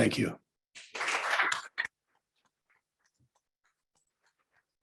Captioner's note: applause